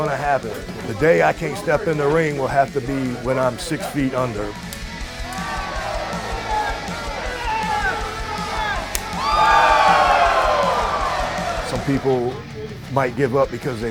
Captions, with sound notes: to happen. The day I can't step in the ring will have to be when I'm 6 feet under. [crowd cheering] [hitting sound] [crowd cheering] [crowd cheering] Some people might give up because